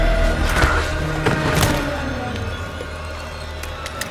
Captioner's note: tense frightening music; body thuds; tense frightening music